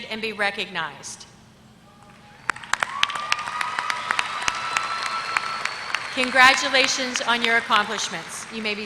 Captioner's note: applause